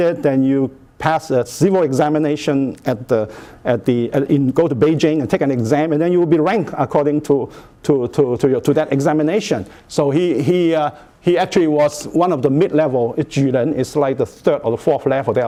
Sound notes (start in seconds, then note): 12.4 speaking Chinese